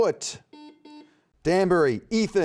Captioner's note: buzzer beeping